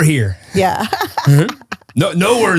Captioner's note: laughs